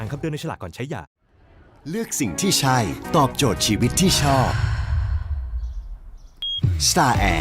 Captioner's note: sigh